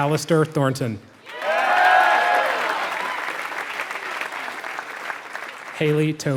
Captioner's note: applause